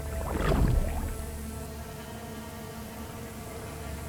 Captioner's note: water gurgling